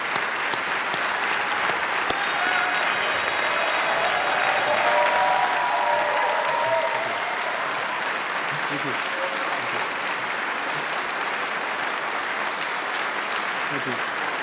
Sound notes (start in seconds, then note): 6.5 applause